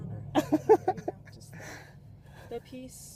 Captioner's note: laughs